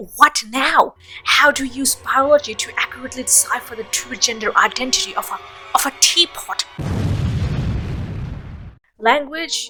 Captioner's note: explosion